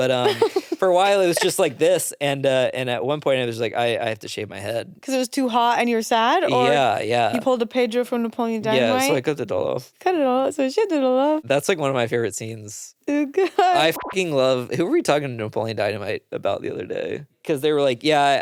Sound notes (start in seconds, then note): 13.8 beep